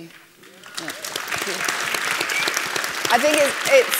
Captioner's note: applause